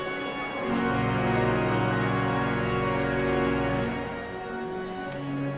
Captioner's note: audience chattering continues